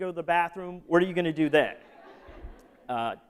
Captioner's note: laughter